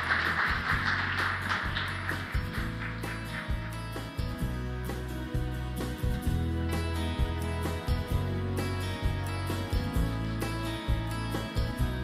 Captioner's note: applause